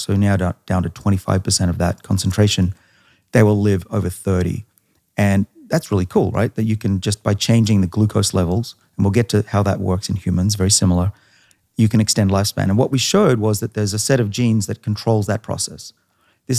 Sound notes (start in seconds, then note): none